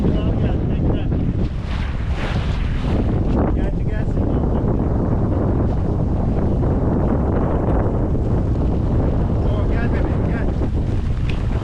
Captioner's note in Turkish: Rüzgar sesi